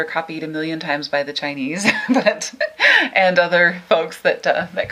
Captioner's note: laughing